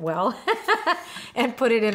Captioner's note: laughs